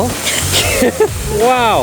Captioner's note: laughs